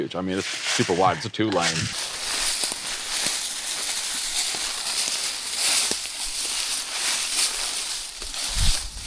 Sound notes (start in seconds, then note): 3.4 leaves crunching